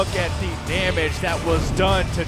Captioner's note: crowd cheering